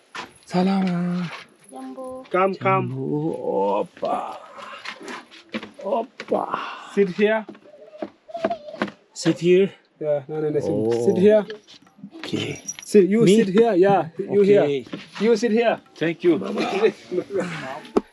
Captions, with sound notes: Hello. (In Swahili) Hello. (In Swahili) Come, come. Sit here. Sit here? No, no, sit here. Okay. You sit here. You here. You sit here. Thank you Baba.